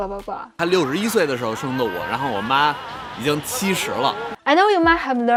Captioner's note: speaking in Mandarin